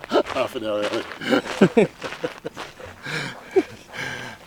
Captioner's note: laughs; laughter